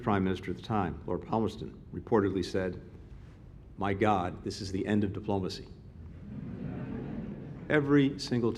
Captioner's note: laughter